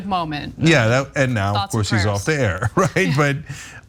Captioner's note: laugh